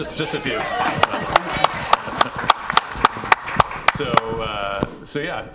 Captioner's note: audience applauds